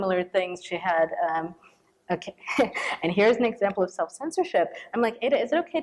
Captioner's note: chuckles